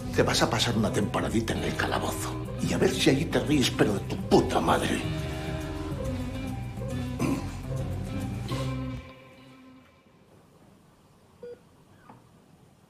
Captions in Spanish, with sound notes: Te vas a pasar una temporadita en el calabozo y a ver si allí te ríes, pero de tu puta madre. (Carraspea)